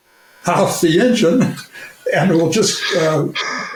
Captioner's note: chuckles